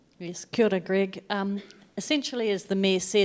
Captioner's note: speaking in foreign language